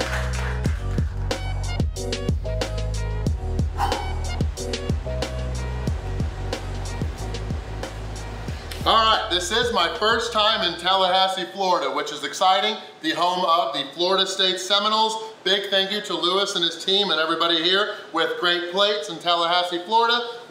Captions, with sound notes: (upbeat music playing) (breathes out) (upbeat music playing) - All right, this is my first time in Tallahassee Florida, which is exciting. The home of the Florida State Seminoles, big thank you to Luis and his team and everybody here, with Great Plates in Tallahassee Florida,